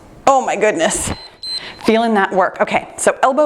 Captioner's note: timer beeps